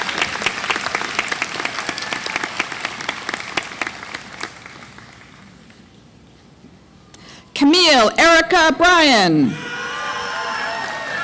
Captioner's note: applause